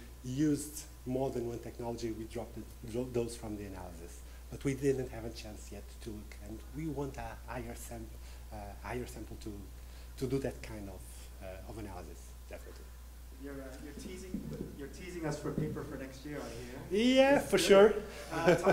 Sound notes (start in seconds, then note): 14.8 voiceover; 18.0 laughing